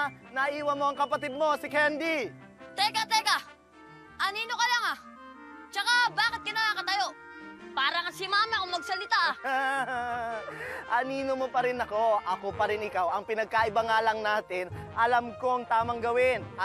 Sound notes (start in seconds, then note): 9.3 Shadow laughs